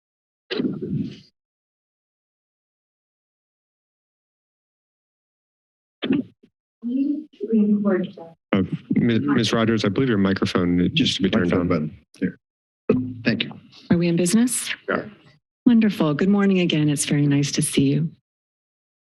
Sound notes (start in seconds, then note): 0.0 silence; 1.8 silence